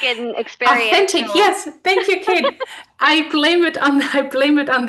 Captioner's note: both laugh